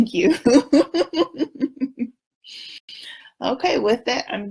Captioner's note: laughs